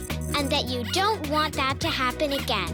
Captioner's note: squeaking